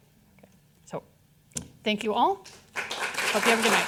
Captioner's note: audience applauding